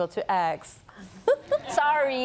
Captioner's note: laughter